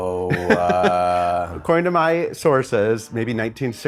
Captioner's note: chuckles